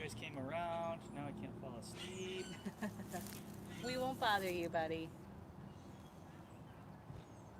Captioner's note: birds chirping